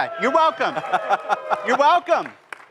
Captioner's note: cheers